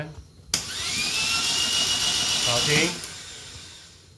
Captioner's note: starter turning